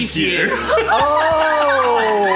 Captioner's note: all laugh